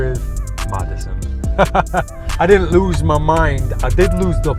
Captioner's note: laughs